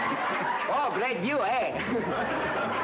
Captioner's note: laughter